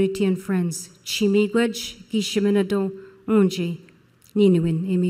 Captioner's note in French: Parlant Anishinaabe